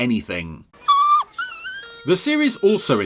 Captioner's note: dog whimpering